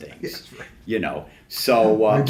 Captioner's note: laughs